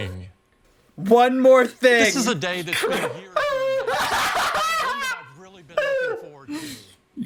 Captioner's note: both laugh in Steve Jobs's legacy